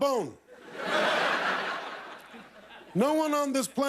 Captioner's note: laughter